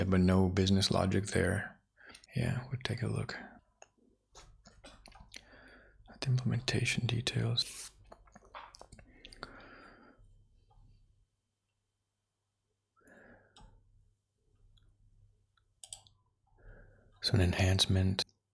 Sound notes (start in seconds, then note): 3.9 silence; 10.0 silence